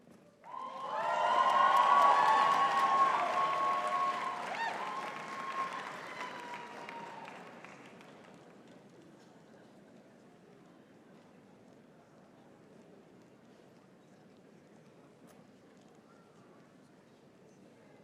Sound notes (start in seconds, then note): 0.4 audience cheering and clapping; 8.0 people chattering